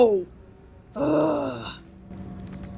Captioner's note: groans in troglodyte